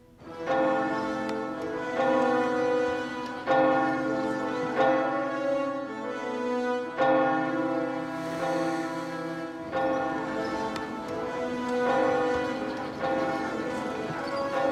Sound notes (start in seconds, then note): 0.1 tower bell ringing; 9.7 indistinct chatter